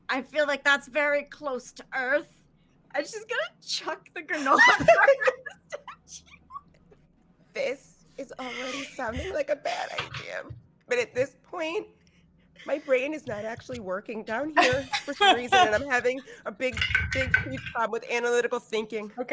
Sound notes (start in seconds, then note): 4.3 laughing